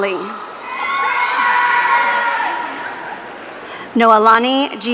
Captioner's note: audience cheering